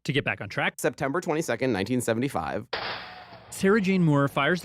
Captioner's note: gunshot